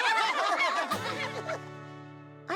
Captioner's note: all laughing